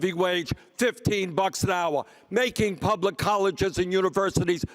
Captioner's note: none